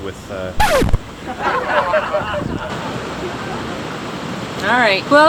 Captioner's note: disc scratches, laughter